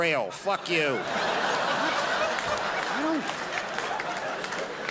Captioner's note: crowd laughs